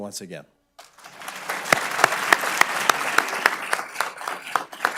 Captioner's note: audience clapping